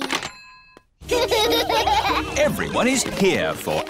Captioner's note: children laughing